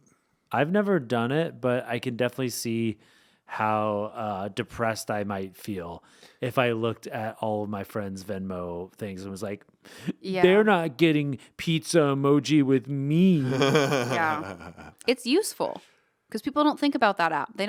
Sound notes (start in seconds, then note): 13.2 laughing